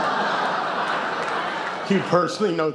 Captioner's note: laughs